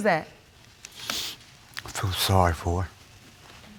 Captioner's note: sniffles